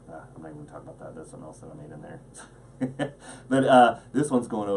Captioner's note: laughs